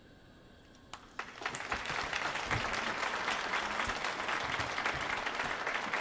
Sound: audience applauding

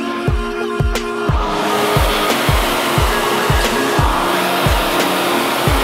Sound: upbeat music; equipment whirring

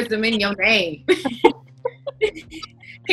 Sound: all laughing

